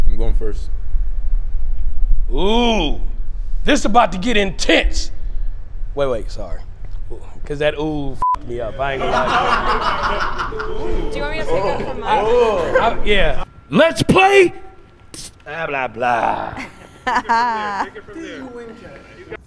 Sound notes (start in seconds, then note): 8.2 beep; 8.6 laughing; 15.9 laughing